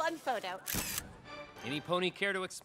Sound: camera clicks

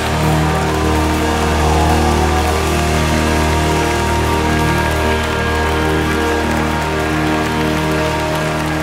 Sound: audience applause

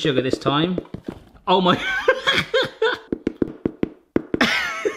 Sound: laughs

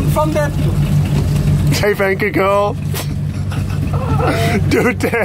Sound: foreign language; laughs

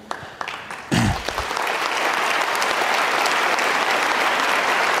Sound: audience clapping

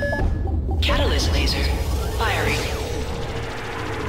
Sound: computer voice

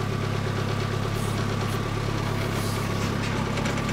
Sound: engine

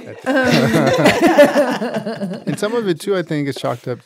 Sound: laughing

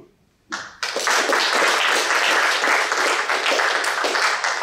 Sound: applause

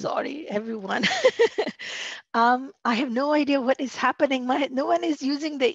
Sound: laughter

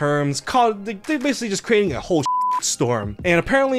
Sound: beep

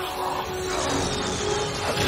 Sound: grunting

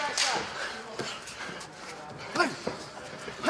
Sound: clapper

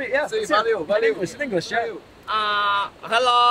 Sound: speaking in foreign language

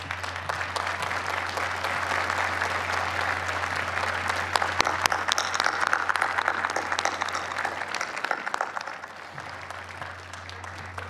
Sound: applause

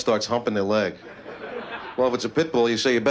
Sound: laughter

